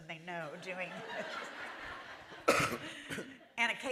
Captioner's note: laughter